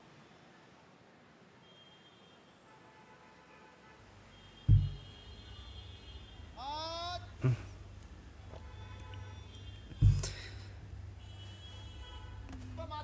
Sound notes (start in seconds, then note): 6.1 fish hawker crying